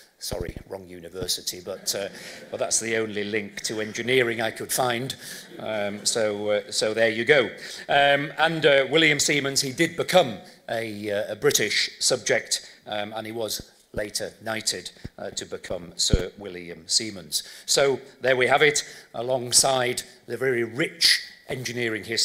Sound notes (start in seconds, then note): 1.7 laughter; 5.4 laughter